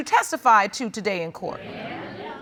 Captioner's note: audience murmurs